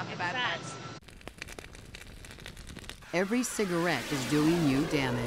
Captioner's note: burning